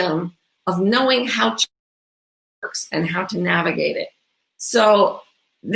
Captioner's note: audio blurs